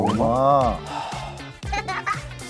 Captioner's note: sigh